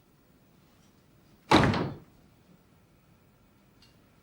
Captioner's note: door closes